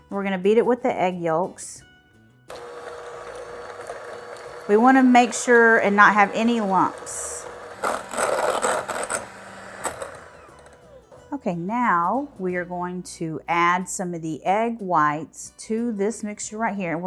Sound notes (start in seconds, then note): 3.0 whirring; 8.3 grinding